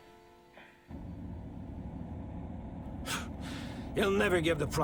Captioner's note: car hums